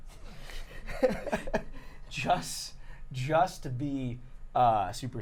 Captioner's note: laughing